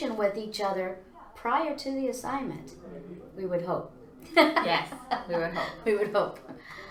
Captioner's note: laughs